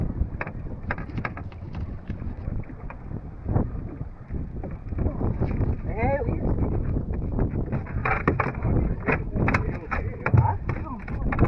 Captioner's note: wind blowing